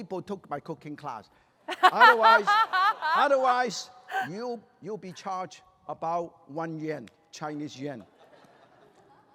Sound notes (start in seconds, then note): 1.7 laughter